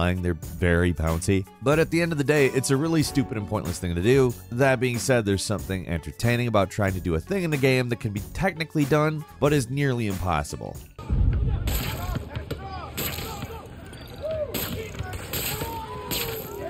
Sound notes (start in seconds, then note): 11.0 people chattering; 11.0 webs blasting